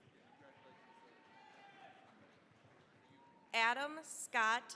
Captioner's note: cheering, applause